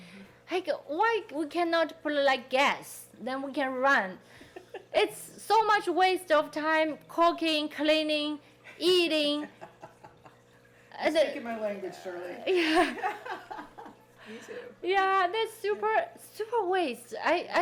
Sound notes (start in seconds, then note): 9.4 people laughing; 12.4 laughing